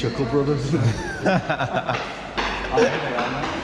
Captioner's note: laughs